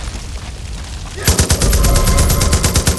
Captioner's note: gunshots